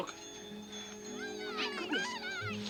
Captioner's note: bells ringing